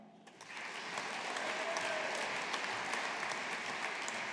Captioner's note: audience applauding